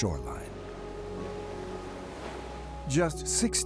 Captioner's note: waves crashing